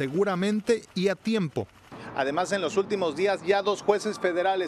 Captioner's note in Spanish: HABLAN EN INGLéS